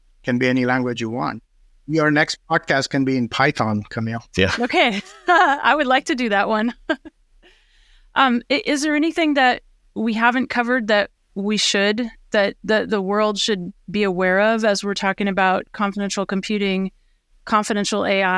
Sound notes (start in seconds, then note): 6.6 chuckles